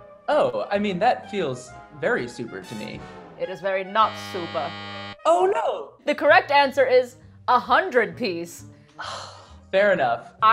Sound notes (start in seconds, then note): 4.0 buzzing noise